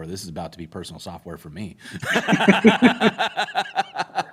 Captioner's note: laughter